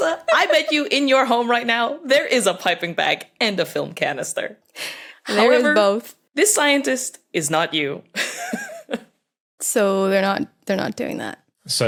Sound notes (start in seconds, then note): 8.2 giggles